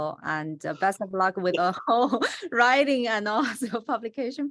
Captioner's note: laughs